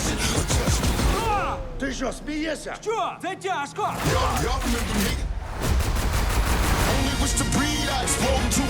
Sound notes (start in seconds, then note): 1.2 Booth exclaims